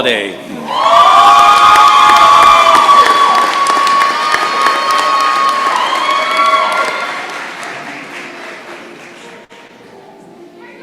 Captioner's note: cheering and applause